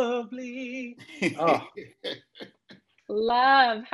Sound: laughing; reminiscent sighs

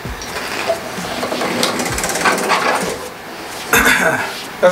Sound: door creaks open; clears his throat

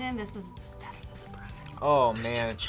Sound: whispers

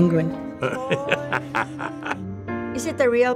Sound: laughing

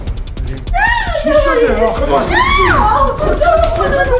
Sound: screaming

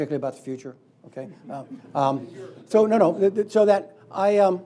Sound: laughing

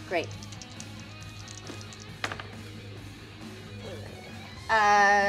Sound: dice rattle

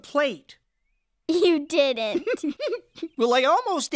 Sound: giggling

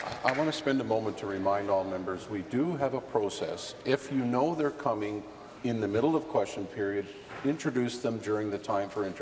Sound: applause

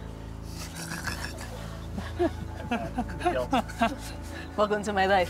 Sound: laughing

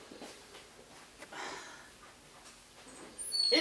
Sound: sighs

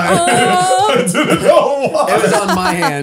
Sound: all laughing

